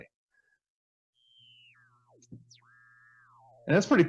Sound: electrical Sounds

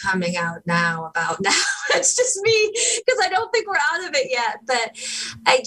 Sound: laugher

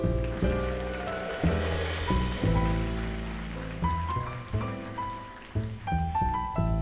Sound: audience applauds; slow jazzy music

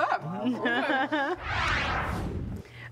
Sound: laughter

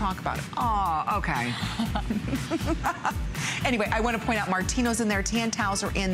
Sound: laughter

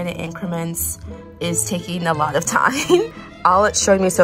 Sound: chuckles

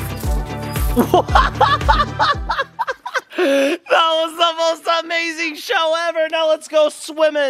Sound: laughs

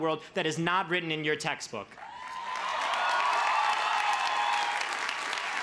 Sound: crowd cheers

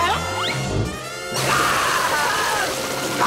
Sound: screaming

